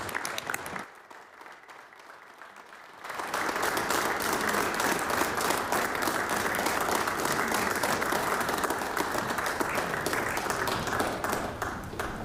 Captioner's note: applause